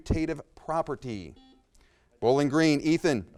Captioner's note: buzzer beeps